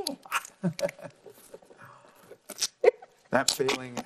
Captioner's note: laughing